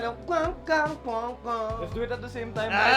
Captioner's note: imitates guitar sounds